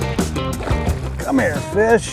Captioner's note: upbeat music; fish splashes